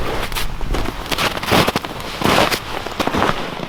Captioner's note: snow crunching